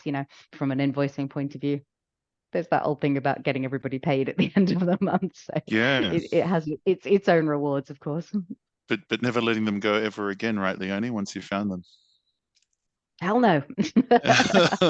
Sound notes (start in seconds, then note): 5.6 laughs; 13.8 laughs